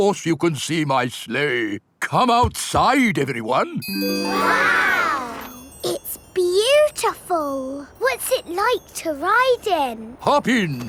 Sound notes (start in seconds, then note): none